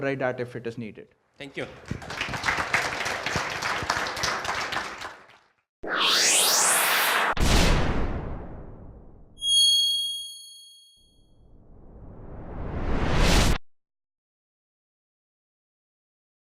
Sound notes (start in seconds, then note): 1.5 applause